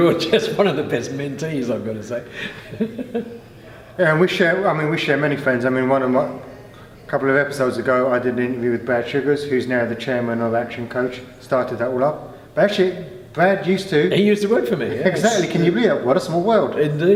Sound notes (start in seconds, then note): 2.2 laughing